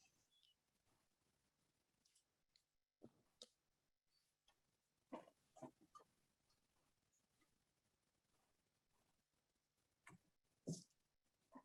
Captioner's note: silence